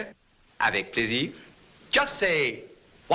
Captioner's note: speaking french